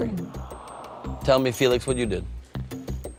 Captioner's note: audience groans